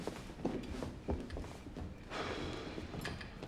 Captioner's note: sighs